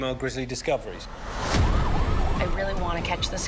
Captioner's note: sirens wailing